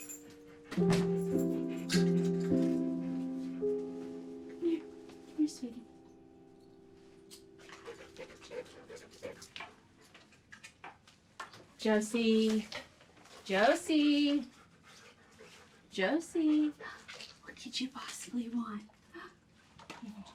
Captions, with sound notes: (dog panting) - Come here, come here, sweetie. (dog panting) Josie, Josie. Josie. What could you possibly want?